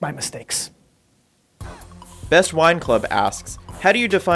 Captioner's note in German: Voice-over